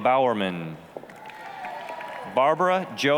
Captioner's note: applause, cheering